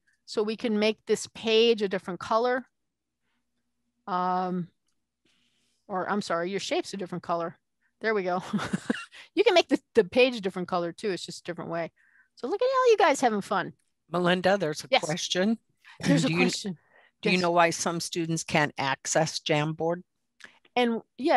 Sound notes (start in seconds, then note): 8.5 laughing